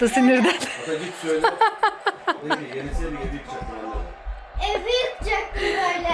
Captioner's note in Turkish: kahkaha